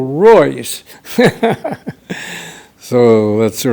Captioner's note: laughs